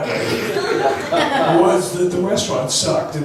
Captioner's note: laughs